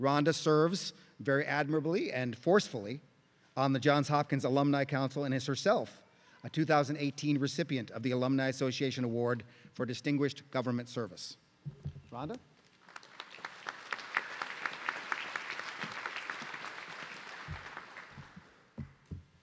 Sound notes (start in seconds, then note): 12.7 everyone clapping